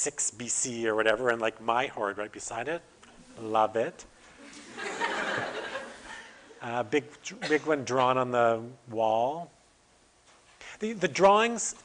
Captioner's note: audience: Laughter